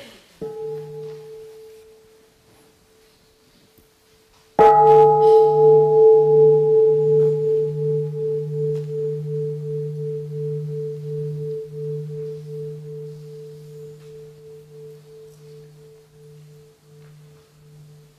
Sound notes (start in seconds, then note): 4.6 the bell is invited to sound